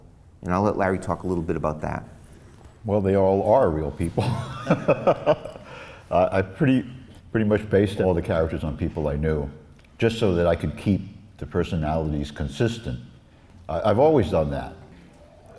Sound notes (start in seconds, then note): 4.0 laughs